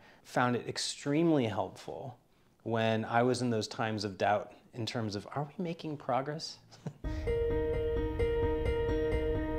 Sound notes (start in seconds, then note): 6.7 chuckles; 7.0 gentle music